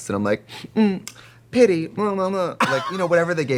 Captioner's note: Katya laughing